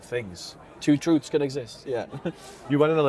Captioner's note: laughs